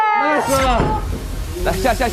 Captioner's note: escape hatch opened